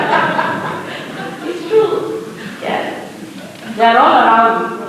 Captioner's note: laughs, general laughter